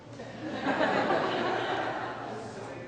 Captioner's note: audience laughs